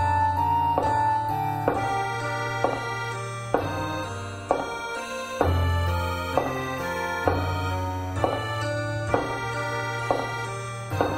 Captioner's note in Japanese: 足音：コツコツコツコツ･･･; 扉の開閉音：バタン